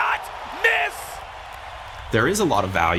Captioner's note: crowd cheers